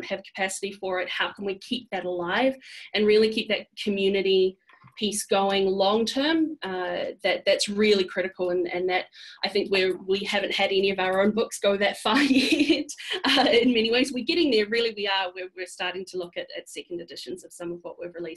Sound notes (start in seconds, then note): 13.0 laughs